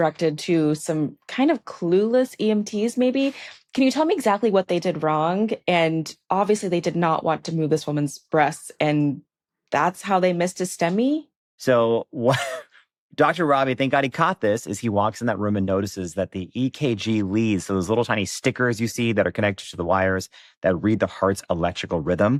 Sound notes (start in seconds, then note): 12.2 chuckles